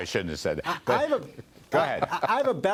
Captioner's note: laughter